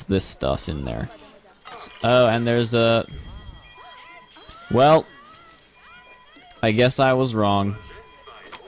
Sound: alarm ringing

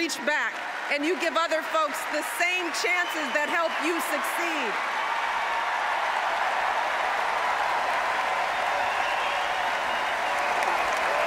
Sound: applause

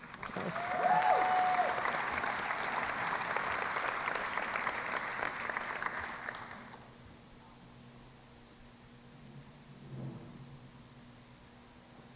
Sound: applause

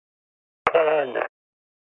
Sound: radio static

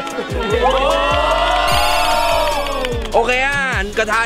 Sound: cheering continues; applauding

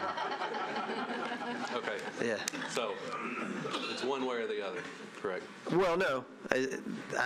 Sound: laughter

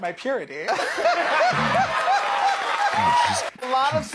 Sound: both laugh

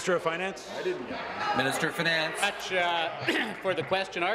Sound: applause

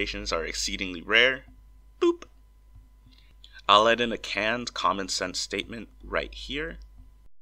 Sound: boop

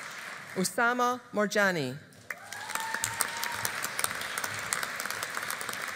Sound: audience applauding

